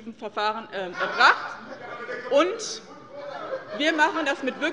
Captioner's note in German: Lachen und Zurufe von der SPD